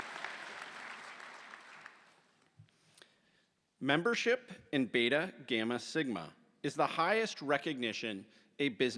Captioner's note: applause